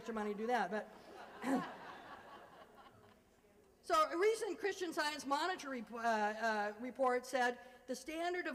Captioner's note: laughter